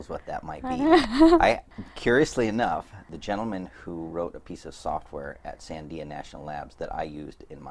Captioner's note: laughs